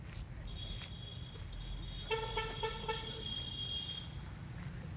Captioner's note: traffic horns honking